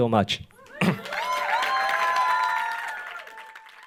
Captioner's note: audience applauding